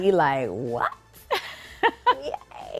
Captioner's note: laughing